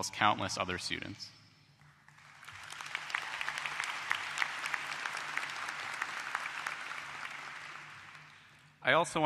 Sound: applause

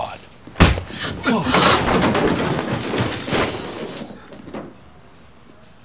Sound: gasping; smack

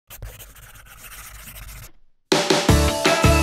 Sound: pen scribbling; upbeat music

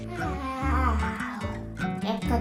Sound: yawn

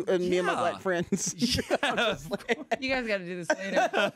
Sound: everyone laughs

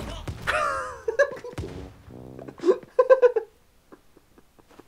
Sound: laughter

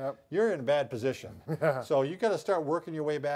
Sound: chuckling

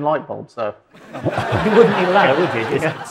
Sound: audience laughs

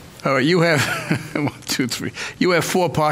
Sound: laughing

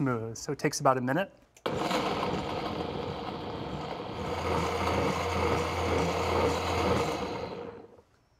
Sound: whirring; whirring stops

